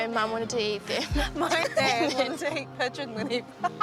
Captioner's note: laughs